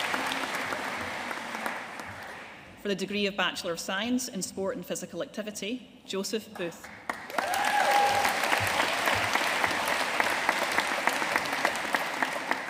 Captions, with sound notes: For the degree of Bachelor of Science in Sport and Physical Activity, Joseph Booth. (AUDIENCE CHEERING AND APPLAUDING)